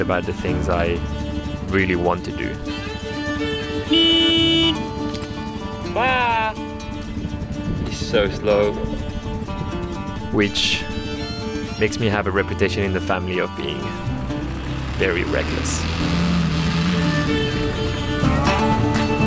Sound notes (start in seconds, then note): 3.7 motorcycle horn; 5.9 Spanish; 16.5 motorcycle revving